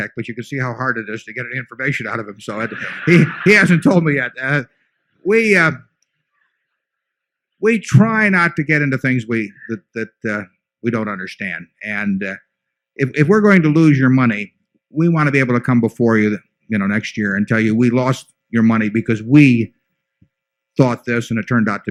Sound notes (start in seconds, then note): 2.5 laughter